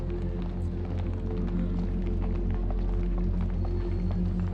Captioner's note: people marching